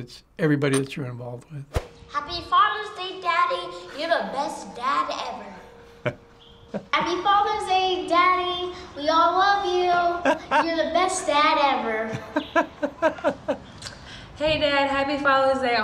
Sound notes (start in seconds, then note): 6.6 chuckles; 12.0 laughs